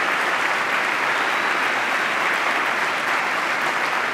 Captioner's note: applause